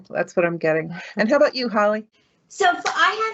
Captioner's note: chuckling